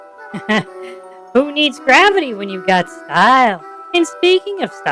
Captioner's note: laughs